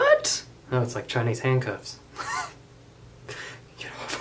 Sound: laughs

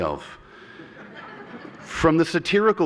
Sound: laughter

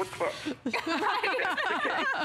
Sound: laughter

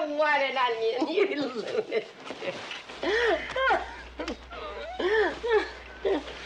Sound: laughs

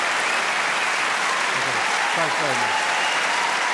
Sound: cheering

